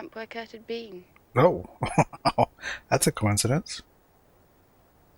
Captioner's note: chuckling